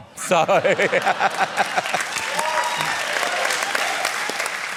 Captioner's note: cheering and applause